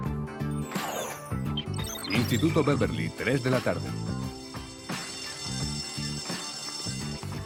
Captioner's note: school bell ringing